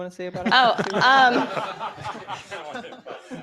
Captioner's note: laughter